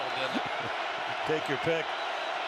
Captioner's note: laughs; laughter